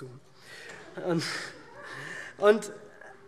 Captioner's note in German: Zuruf